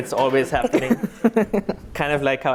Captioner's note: laughter